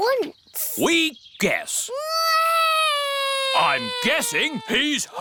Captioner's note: alexander wails